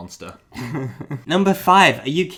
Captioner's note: giggles